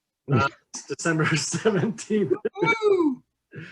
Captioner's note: laughs